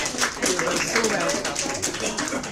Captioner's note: applause